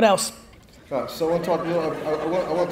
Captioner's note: audience laughs